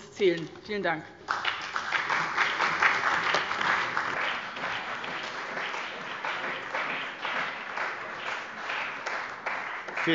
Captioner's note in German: Beifall bei dem BÜNDNIS 90/DIE GRÜNEN und der CDU